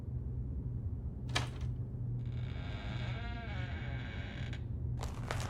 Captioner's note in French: porte ouverte et craquement; craquement provoqué par les pas